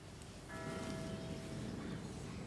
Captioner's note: church bells